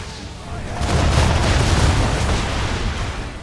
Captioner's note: explosions